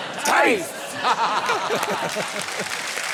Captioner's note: laughter